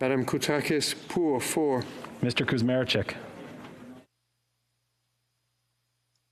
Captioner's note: speaking French